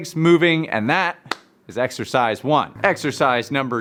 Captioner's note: hands clap